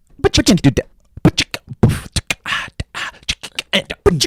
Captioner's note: beat boxing